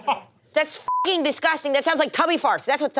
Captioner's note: laughter; beep